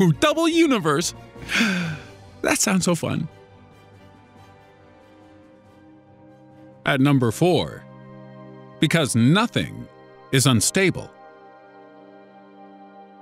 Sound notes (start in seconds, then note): 1.4 sigh